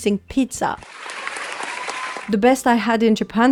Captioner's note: applause